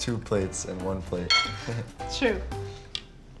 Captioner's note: laughs